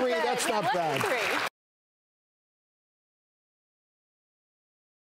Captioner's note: audience clapping